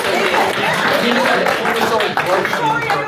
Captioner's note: applause